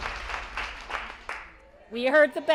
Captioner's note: cheering and applause